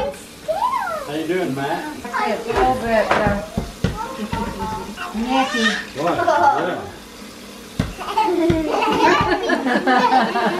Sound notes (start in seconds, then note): 4.0 chatter and laughter